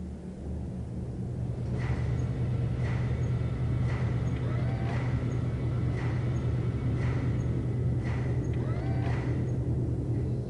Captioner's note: A low drone and mechanical noises